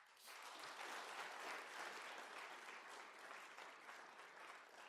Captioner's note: people clapping